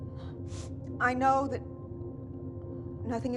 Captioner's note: sniffles